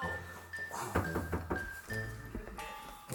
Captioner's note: knocking on the door